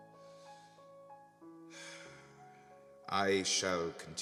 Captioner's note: A deep sigh